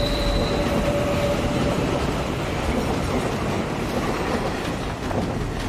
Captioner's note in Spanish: Ruido del tren